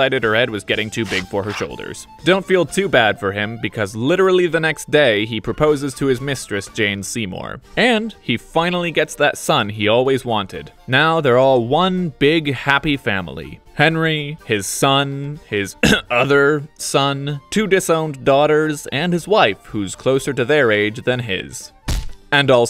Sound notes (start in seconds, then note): 15.8 cough